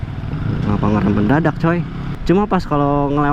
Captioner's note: grumbled